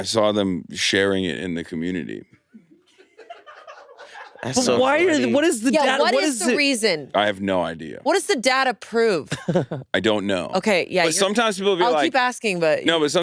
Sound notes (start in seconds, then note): 3.4 crew laughing; 9.3 chuckles